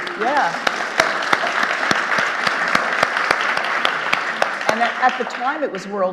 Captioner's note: audience applauding